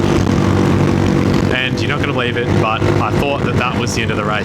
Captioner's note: engine noise